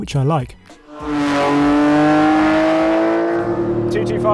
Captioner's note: car engine revving